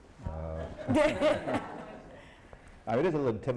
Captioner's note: laughter